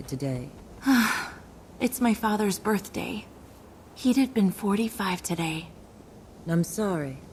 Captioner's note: sigh